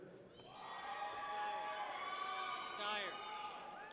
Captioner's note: people cheer